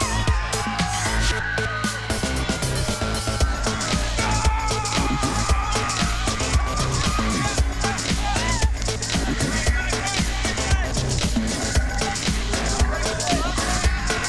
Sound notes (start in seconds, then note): 0.0 screams, music, monster noises & laughter